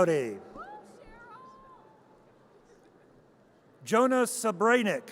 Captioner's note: audience cheers